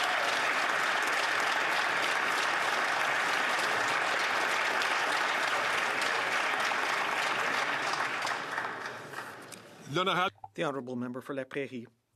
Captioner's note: some Applause